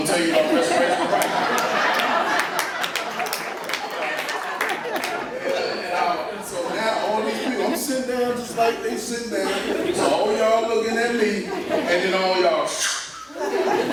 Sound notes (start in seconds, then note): 2.1 laughter